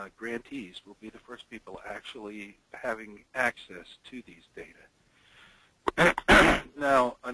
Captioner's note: clears throat